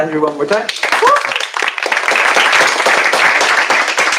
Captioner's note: applause